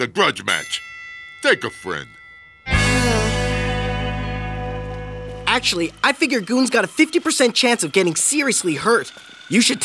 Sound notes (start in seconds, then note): 2.8 sighing